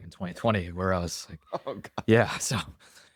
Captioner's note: laughing